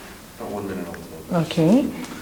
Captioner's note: man speaks off mic